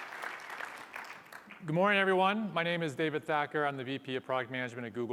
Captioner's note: applause